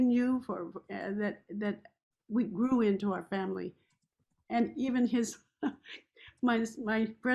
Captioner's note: chuckles